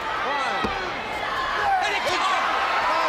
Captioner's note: crowd cheering